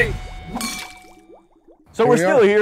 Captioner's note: glasses clanking